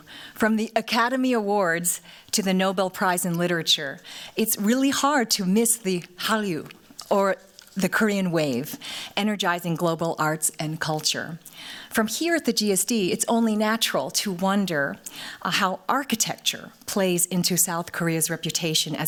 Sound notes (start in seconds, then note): 6.6 korean